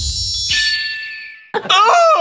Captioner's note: distant cry of a red-tailed hawk